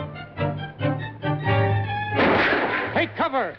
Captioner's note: gunshot